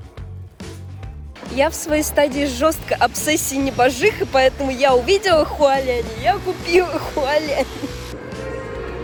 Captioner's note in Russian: смех